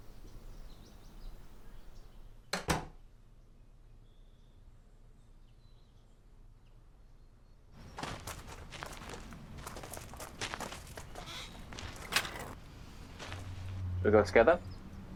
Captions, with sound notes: [door closes] [gate closes] We'll go together?